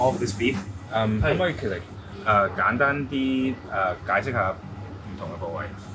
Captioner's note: speaking in foreign language